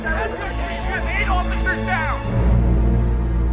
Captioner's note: man 3 over radio